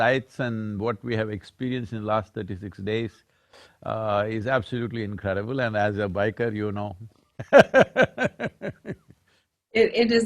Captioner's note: laughs